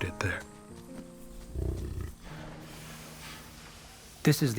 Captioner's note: buffalo grunts